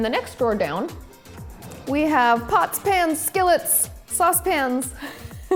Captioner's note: laughs